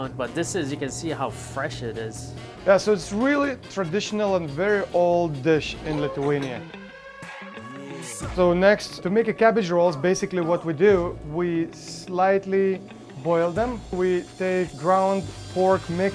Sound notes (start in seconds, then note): 6.7 siren wails